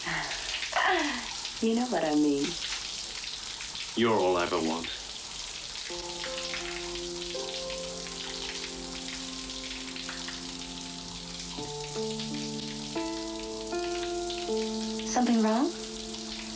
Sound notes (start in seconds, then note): 0.1 laughing; 5.8 romantic piano music; 6.1 water trickling